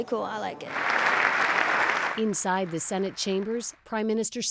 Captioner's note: applause